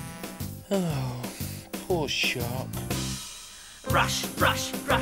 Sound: sighs

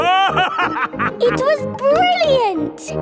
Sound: laughing

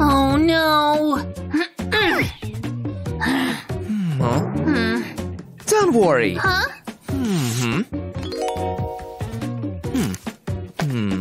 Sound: groans

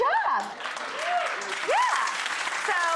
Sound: audience clapping

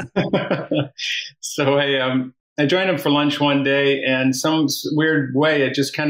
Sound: laughs

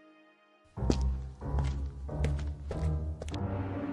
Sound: footsteps

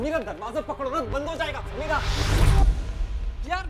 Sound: door closes

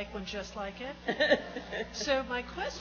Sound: laughs

